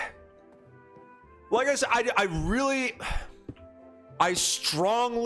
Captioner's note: sighs; sighs